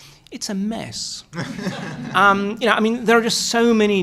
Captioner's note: laughter